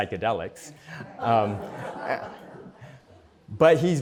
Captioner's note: laughter